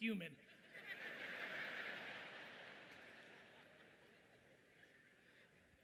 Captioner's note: audience laughing loudly